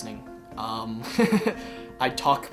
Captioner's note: Jonathan chuckles